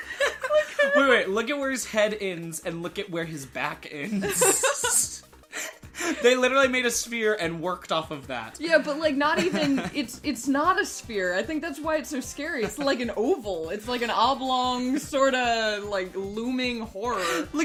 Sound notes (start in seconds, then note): 4.1 both laughing